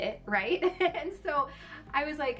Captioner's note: laughing